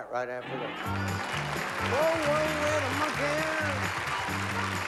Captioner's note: applause